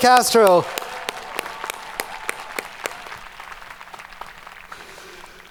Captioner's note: audience applauding